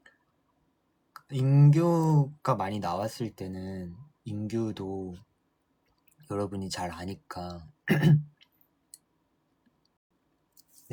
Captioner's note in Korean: 목을 가다듬음